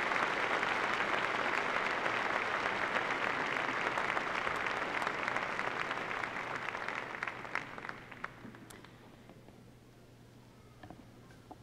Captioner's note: applause